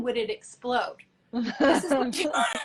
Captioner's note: laughs